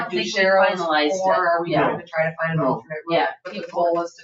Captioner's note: people chattering